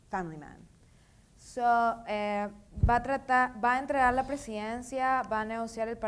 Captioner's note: speaking in foreign language